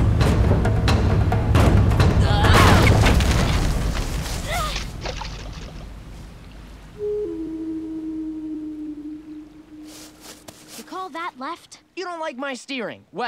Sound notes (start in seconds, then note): 2.4 smashing; 4.3 gasping